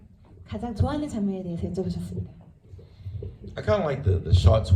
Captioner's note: speaks in foreign language